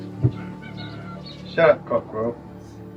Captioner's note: cockerels